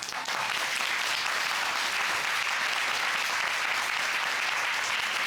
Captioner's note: audience applauding